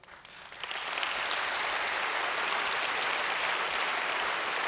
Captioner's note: audience applauds